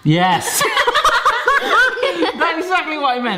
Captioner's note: laughing